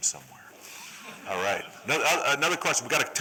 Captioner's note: laughter